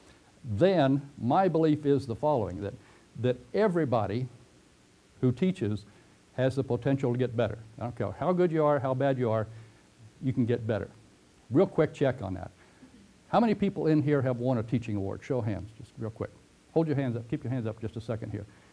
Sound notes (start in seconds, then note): 11.1 pause